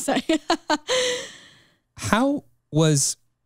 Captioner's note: chuckles